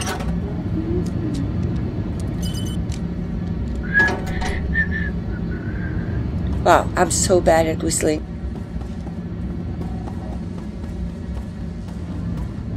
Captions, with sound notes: (whistles) Wow, I'm so bad at whistling!